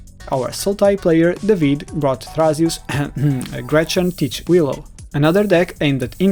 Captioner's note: ahem